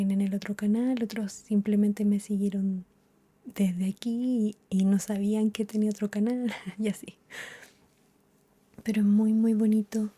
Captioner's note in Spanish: risas